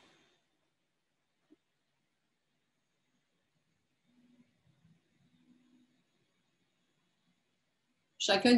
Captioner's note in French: silence